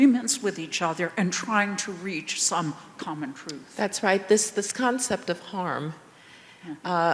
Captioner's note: none